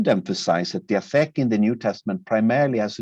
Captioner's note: speaking in a foreign language